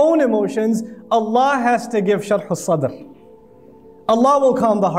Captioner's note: Arabic